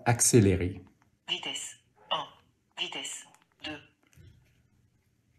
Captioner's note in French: Voix de synthèse